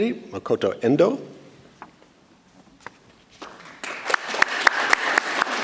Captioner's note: audience applauds